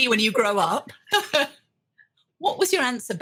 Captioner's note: laughing